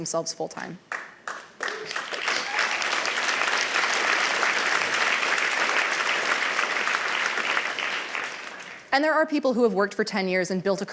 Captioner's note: applause